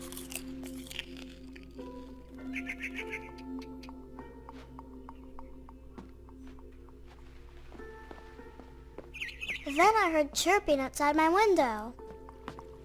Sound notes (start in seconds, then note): 9.0 piu de passaros